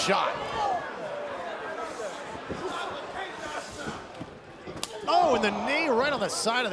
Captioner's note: crowd chatter